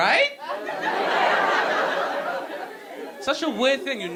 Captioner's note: audience laughing